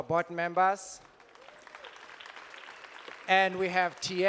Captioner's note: audience applauding